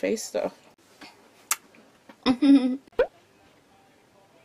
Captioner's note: light lip smack